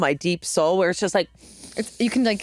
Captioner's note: inhales deeply